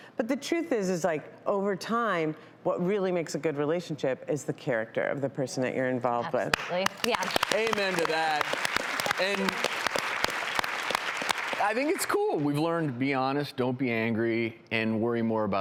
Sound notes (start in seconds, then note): 6.5 applause